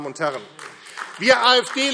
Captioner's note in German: Beifall AfD